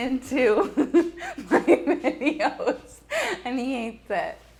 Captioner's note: laughs